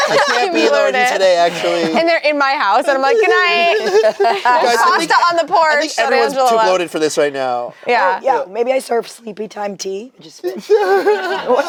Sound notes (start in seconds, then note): 3.0 laughs; 10.5 group laughs